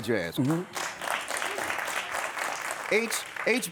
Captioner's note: audience applauds